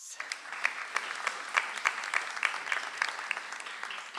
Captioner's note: audience applauds